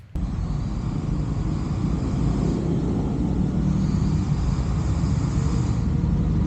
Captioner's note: loud traffic on the road